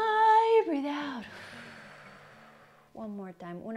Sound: 1. guitar slides down 2. deflates balloon